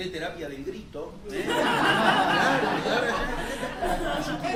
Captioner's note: laughter